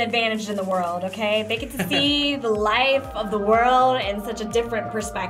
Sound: laughs

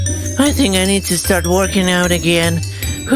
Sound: sounds of heavy breathing

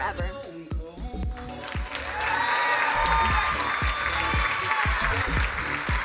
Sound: crowd cheering and applauding

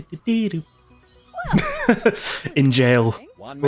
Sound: laughter

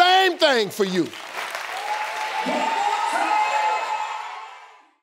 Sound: audience cheering

